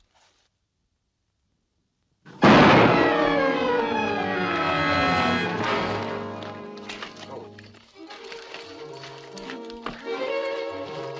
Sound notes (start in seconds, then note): 2.4 gunshot; 4.7 dramatic chords